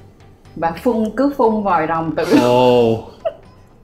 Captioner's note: throwing up